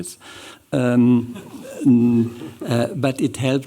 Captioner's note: chuckling